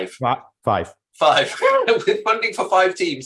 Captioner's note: laughing